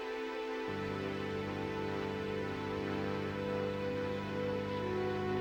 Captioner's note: plane engine running